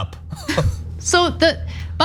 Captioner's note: laugh